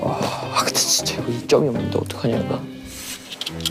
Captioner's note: whispering